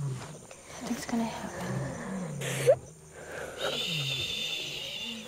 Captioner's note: David Sobs